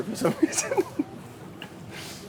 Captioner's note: laughs